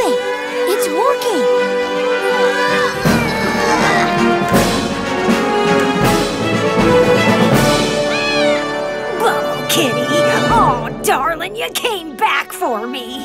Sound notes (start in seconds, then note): 2.2 straining; 8.0 meowing